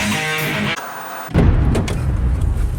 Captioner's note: upbeat rock music; static buzzing; dramatic music